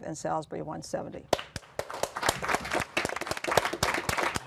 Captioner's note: applause